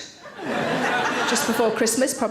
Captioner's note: audience laughing